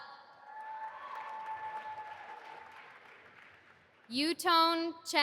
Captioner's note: audience applauding